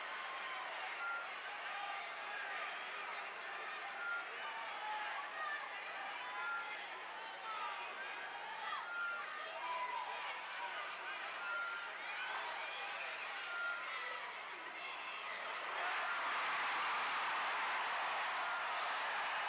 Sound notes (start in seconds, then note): 7.8 crowd chattering; 16.7 crowd cheers